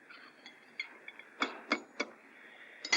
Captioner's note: tapping